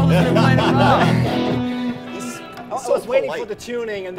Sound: laughing

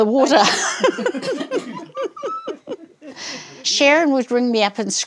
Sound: laughing

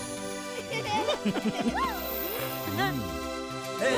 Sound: chuckling

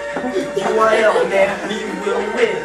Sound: more Laughter

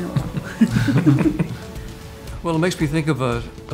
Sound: laughing

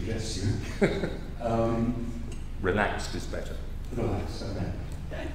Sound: laugh

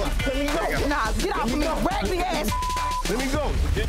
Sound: beep

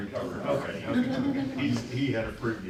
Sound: laughter

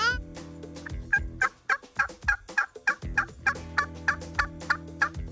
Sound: device imitates turkey calling

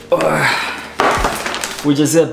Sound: bag thudding

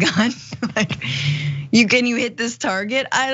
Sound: laugh

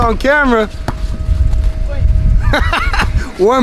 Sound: basketball thudding; laughs

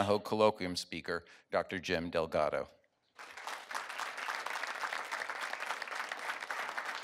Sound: audience applauds

